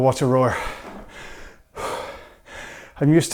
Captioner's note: breathes heavily